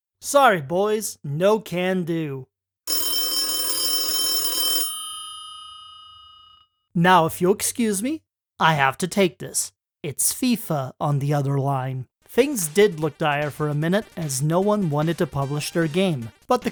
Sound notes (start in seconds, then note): 4.9 phone ringing